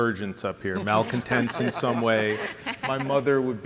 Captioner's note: laughter from the panel